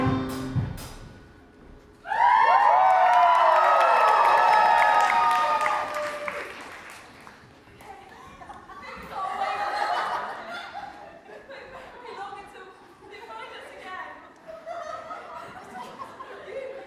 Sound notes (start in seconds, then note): 4.5 audience cheers; 8.1 audience laughs; 14.4 audience laughs